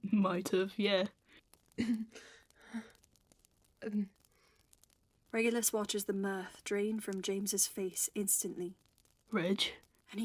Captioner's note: choked laugh